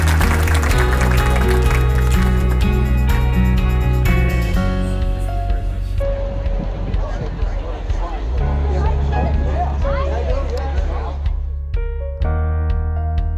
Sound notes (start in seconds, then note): 0.2 uptempo music; 7.3 crowd noise; 10.6 music fades